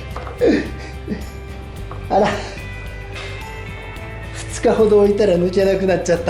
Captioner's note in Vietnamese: cười